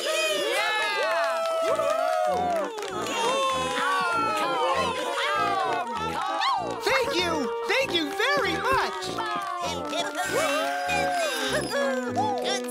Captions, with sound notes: Thank you, thank you very much! (Audience cheering) Thank you. Thank you! Bravo!